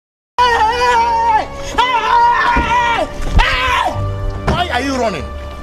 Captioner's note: screams